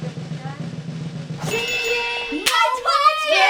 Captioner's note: bells chiming